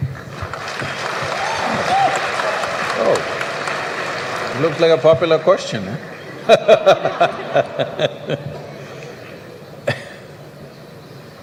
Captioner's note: applause